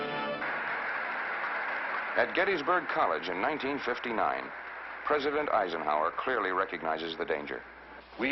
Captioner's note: applause